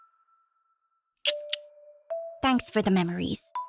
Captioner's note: tongue click